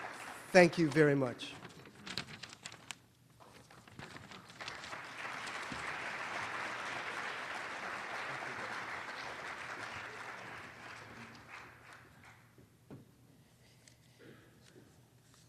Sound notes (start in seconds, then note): 0.0 applause; 4.2 applause